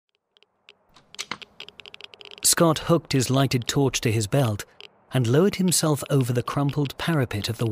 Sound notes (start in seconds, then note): 0.1 geiger counter clicking